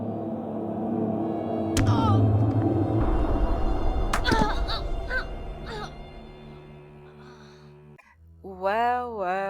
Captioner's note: oof